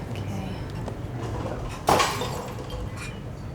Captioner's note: crash sound